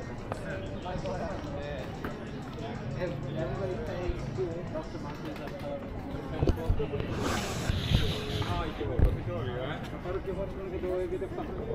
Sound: people chattering

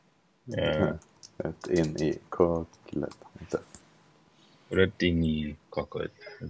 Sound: typing

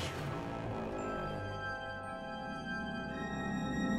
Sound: ship drops from hyperspace

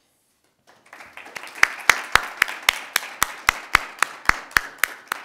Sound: audience applauding

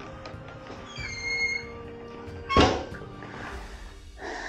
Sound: door creaks and slams

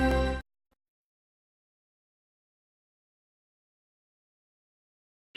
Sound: silence

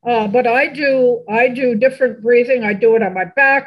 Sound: none

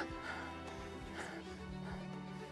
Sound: whispers

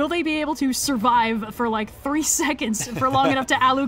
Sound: laughs

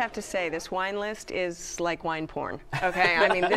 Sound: laughs

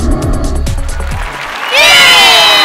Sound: cheering and applause

